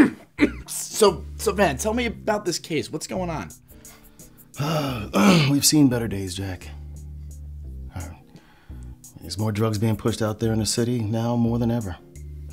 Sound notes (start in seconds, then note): 0.0 cough; 4.5 sighs